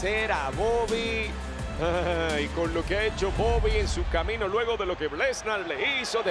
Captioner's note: laugh